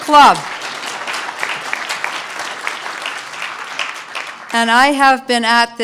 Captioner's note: applause